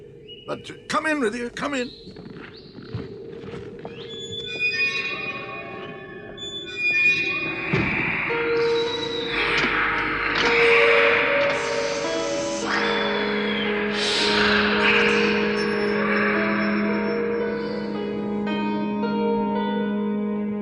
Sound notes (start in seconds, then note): 3.7 whistling continues; 7.1 growling and hissing